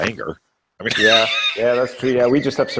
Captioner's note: laughing